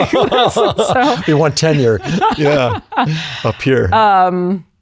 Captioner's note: laughs